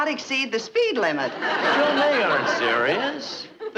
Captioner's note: audience laughing